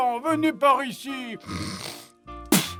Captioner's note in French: renifle